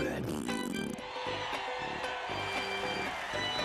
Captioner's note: audience cheering